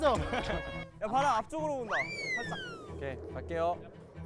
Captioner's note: then, the wind blows again